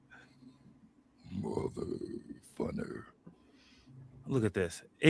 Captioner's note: deep voice